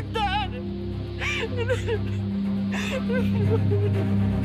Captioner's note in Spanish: Sollozos